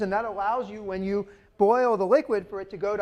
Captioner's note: none